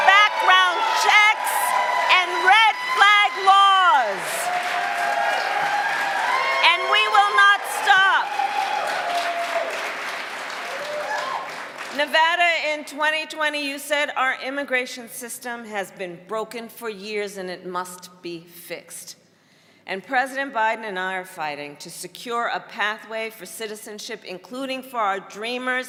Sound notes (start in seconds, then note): 8.7 cheering and applause